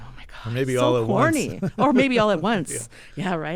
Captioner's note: laughter